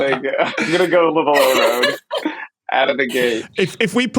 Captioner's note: giggles